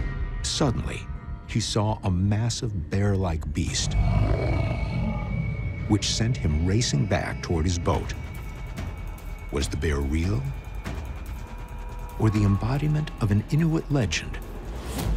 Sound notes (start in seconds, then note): 3.9 snarling